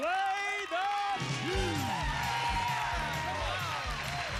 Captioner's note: cheers and applause